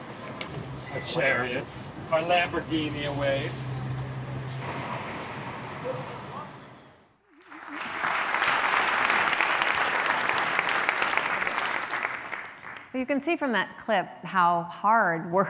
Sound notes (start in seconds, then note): 7.2 applause